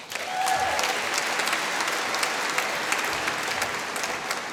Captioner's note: applause